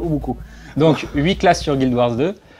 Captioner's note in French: rire